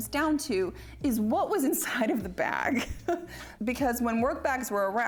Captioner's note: laughs